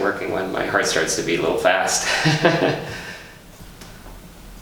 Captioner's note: laughs